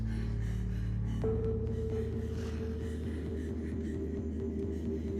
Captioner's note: Alex breathing heavily; rapid suspenseful music